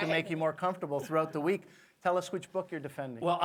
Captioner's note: laughter